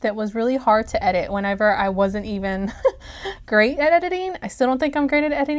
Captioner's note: snicker